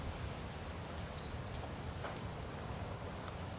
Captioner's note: birds chirping